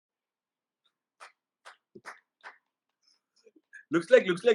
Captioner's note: applause, rightfully